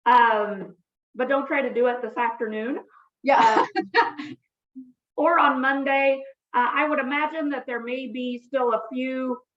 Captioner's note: laughs